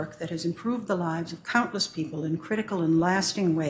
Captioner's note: none